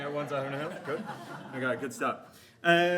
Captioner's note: audience laughs